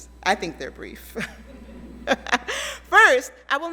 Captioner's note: laughs; audience laughs